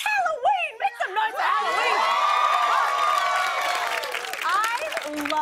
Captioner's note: cheers and applause